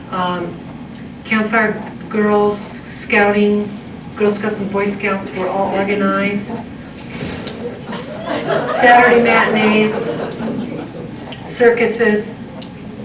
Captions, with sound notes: campfire girls, scouting, Girl Scouts and Boy Scouts, were all organized. Saturday matinees, [laughter] circuses.